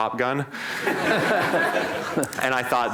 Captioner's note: laughter